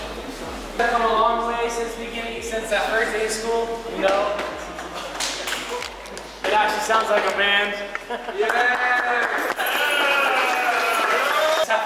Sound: cheer and Applause

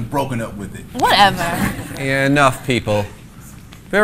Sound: class laughing

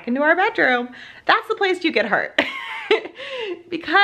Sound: laughs

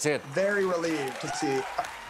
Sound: audience claps

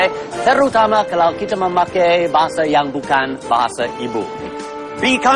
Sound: non-english speech

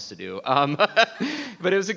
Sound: laughs

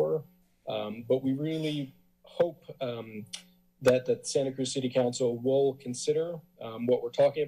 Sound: tsk

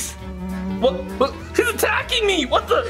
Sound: fly buzzing

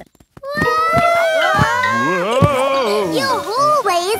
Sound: all yelling

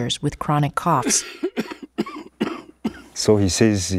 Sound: coughing

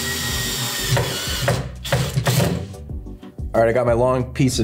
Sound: drill hums; relaxed music; wood thudding

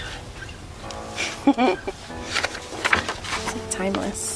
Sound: laughs

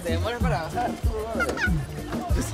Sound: laughs

